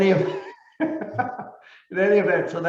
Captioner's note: laughing